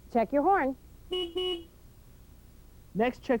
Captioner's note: horn honks